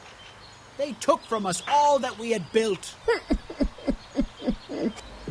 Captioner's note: cries